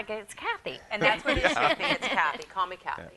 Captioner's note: laughter